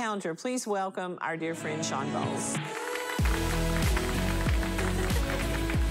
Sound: applause

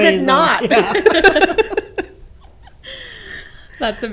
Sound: laughs

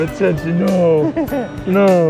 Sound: giggling

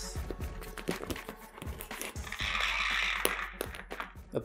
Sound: Rude ralph sounds

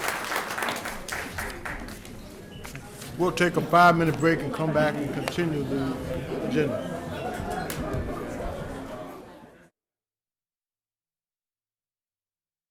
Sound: applause

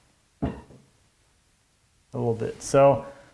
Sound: wood thumping

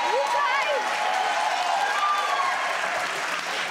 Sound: applause

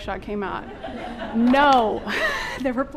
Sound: audience laughing

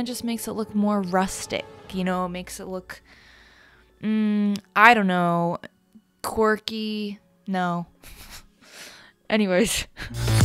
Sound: laughs; upbeat music

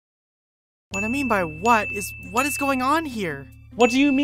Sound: three dings; two dings

